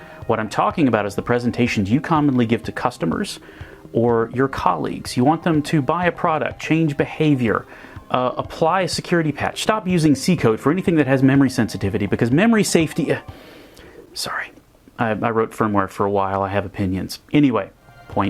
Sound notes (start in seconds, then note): 13.2 breathes; 14.1 whispers